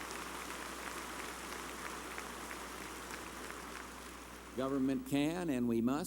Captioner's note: applause